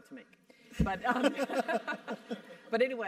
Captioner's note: laugh